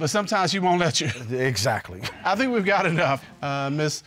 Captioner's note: judge laughs